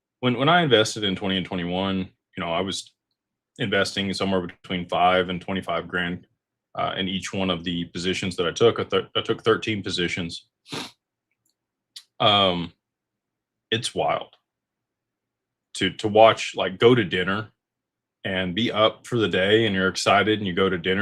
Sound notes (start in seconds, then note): 10.7 snorts